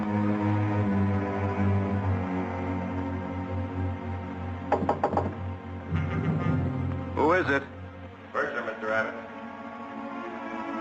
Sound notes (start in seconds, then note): 4.7 knocking